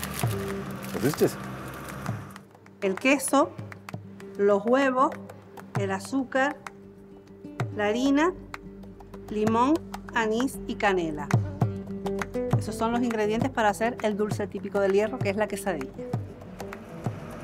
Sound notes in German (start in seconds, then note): 2.0 Frau auf Spanisch